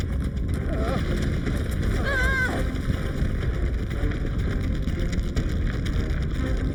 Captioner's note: Larry groaning; Paige grunting